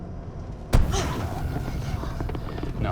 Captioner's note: tire blows; Lucy gasps; tire rattling